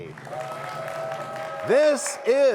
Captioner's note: cheers and applause